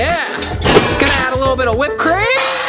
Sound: waffle iron banging

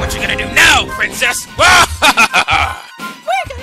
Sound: evil laugh

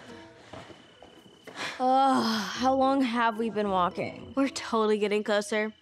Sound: gasps

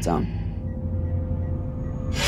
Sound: beeping; ominous music

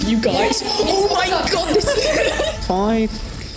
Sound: laughing

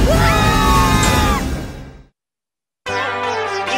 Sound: screams

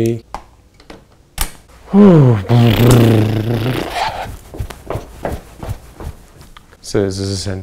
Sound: blows raspberry desperately

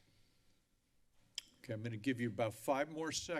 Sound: clicks tongue

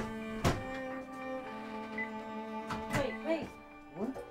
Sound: door slams

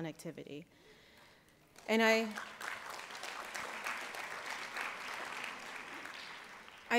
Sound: applause

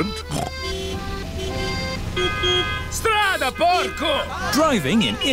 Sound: horns honking; snorts; driver yells in italian

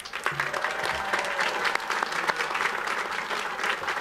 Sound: audience applauds

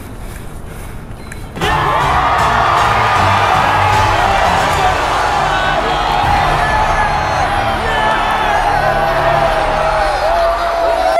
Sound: crowd goes wild

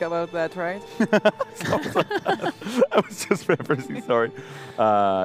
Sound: laughs

